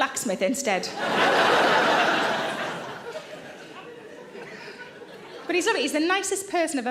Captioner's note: audience laughing loudly